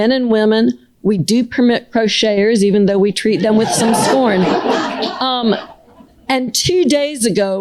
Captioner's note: laughter